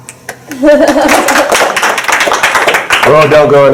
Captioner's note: applause